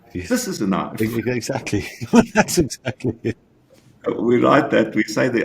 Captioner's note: giggles